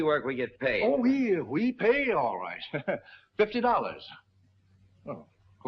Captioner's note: laughs